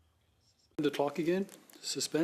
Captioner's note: speaking French